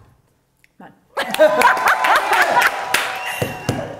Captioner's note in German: Gelächter